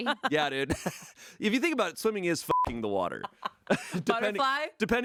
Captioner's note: beep